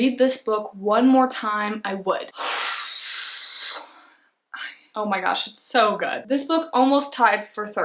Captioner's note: breathes out heavily